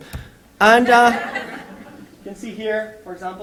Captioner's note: laughter